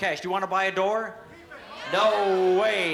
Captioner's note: audience shouting